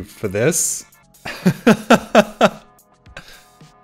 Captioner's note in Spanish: ríe